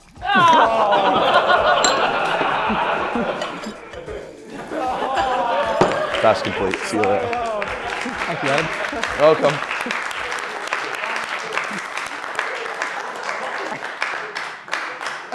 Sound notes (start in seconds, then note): 0.1 laughter; 4.7 laughter continues; 7.9 laughter and applause